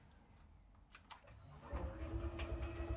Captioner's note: low whirring